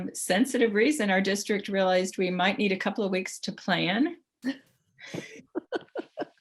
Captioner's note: laughter